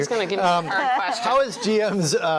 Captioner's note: laughs